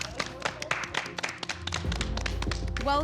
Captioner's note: applause